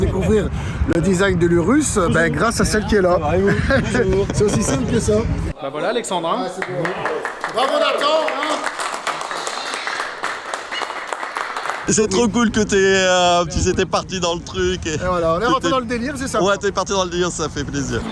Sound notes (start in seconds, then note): 8.3 applause